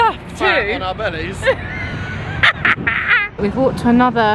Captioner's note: laughing